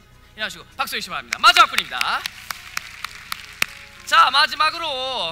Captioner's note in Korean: 박수